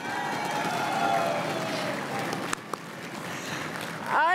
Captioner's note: crowd cheering and applauding